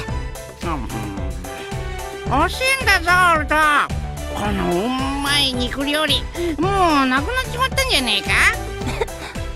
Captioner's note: nom nom